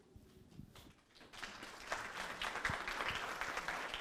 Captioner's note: clapping